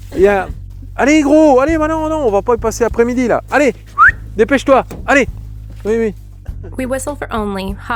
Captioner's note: whistles